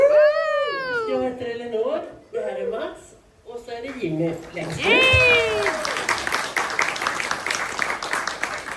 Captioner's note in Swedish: applåder